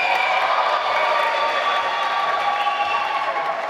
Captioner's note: applause